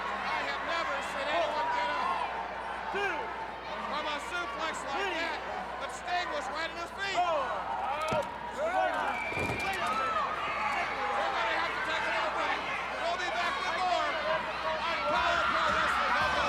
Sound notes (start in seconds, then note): 9.4 Sting thudding on ring; 9.4 crowd cheering